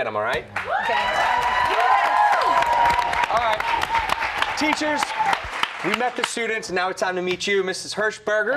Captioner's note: cheers and applause